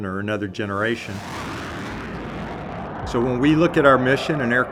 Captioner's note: jet whooshes through air